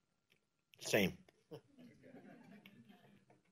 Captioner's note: laughter